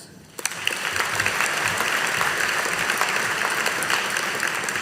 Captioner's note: audience applauding